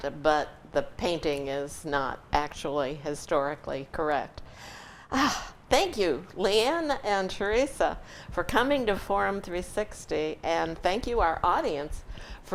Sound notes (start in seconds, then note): 4.9 sighs